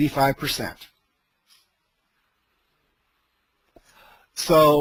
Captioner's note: silence